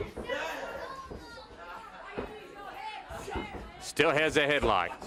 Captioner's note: crowd chatter